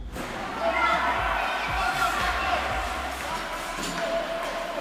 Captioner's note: hockey players shouting